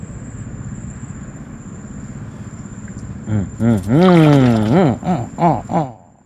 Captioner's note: fishing sounds